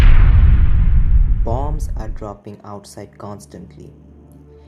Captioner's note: bomb sounds